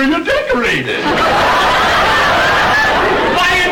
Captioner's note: audience laughter